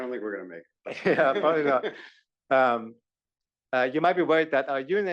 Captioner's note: laugh